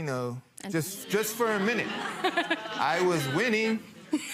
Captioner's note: people laughing